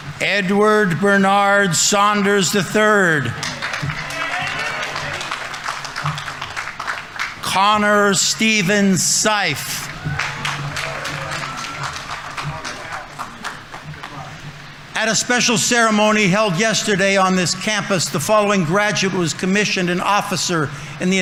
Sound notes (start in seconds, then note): 5.1 audience applauding; 9.2 audience applauding; 10.0 audience members cheering